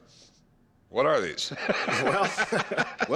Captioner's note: laughs